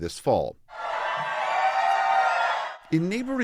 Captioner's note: cheering